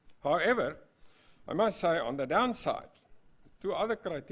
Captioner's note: none